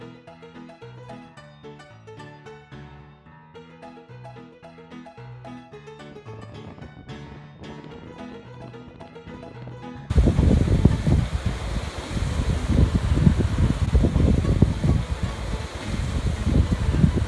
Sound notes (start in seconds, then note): 10.1 waterfall splashing